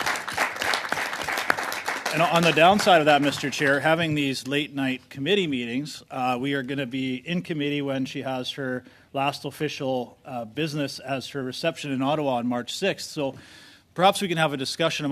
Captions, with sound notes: BUT THEY CAN SAY THANK YOU TO ALL YOU'VE DONE A GOOD LUCK. [ Applause ] AND ON THAT HAVING THESE LATE-NIGHT COMMITTEE MEETINGS WERE GONNA BE IN COMMITTEE WHEN